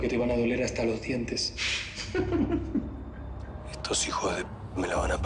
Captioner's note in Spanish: Ella ríe